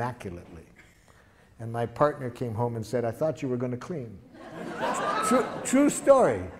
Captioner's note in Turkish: Gülüşmeler